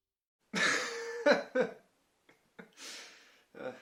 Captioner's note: laughter